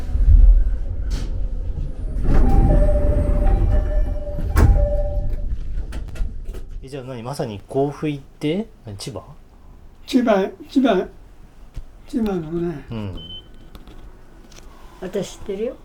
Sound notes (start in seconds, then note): 2.3 train door chimes